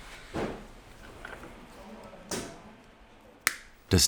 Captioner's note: quiet babble of voices in the background